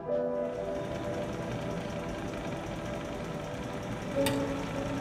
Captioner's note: machines rattling